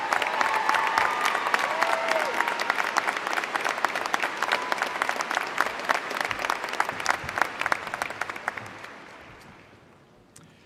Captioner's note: applause